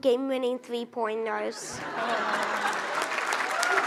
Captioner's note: audience laughs; audience applauds